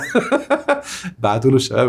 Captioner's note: laughs!